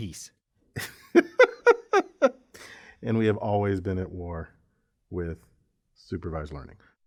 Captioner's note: laugh